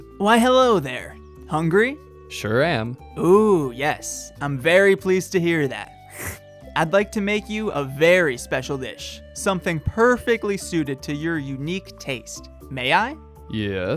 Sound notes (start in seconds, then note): 6.0 slurp